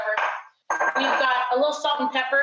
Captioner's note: glass thunking